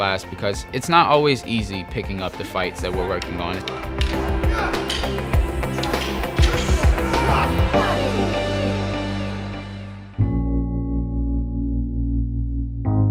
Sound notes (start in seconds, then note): 2.9 sticks clacking; 3.6 men grunting; 10.2 mellow music